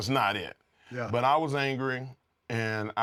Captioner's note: laugh